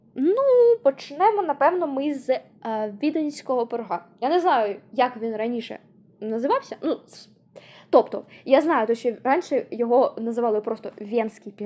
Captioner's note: in a russian way